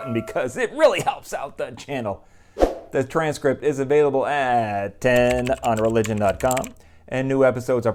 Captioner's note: bell ringing; keyboard typing